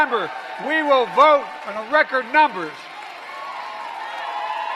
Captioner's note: applause